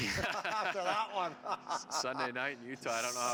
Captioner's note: laughs